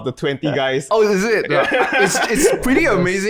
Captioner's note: guys laugh